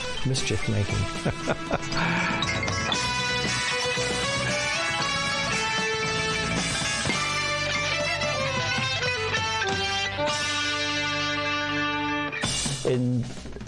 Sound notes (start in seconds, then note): 1.0 laughing; 6.1 rock music